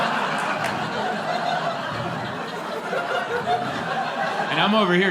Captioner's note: laughter